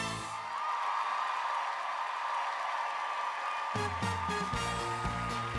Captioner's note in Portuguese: audience cheering and applauding